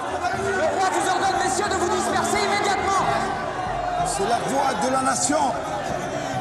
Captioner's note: men shouting; man speaking in French